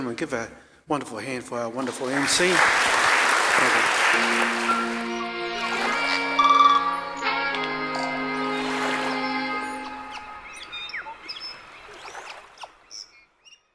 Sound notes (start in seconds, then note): 1.7 audience applauds; 3.6 calm music; 5.1 birds chirping; 8.0 water rushing